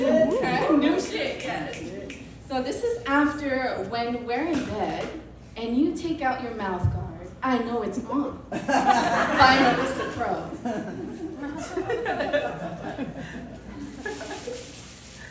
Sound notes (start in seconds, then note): 0.0 whooping from audience; 8.5 laughter from audience; 10.7 more laughter